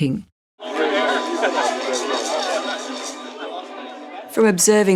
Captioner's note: people talking loudly